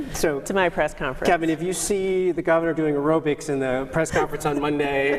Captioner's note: laughter